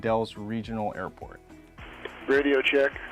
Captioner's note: other aircraft checking radios